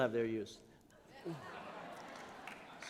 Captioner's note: laughter